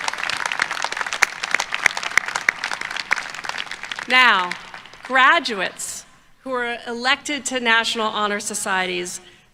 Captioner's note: applause